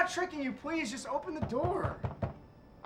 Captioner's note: knocking